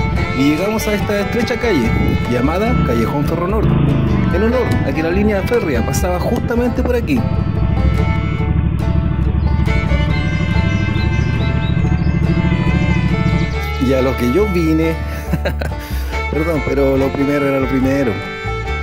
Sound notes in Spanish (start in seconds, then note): 15.1 Risas